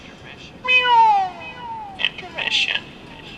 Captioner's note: myeuuuw